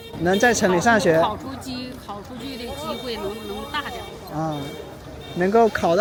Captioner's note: shrill horn sound